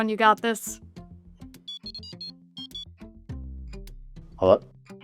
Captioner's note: cell phone tone